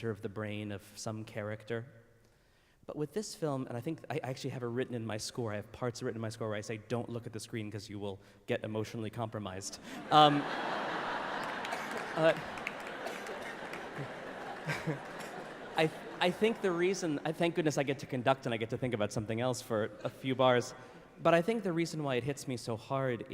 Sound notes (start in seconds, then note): 10.7 laughter